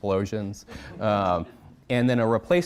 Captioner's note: audience chuckling